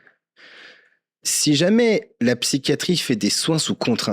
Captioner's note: exhales